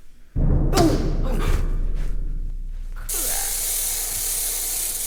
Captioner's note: stomp and squish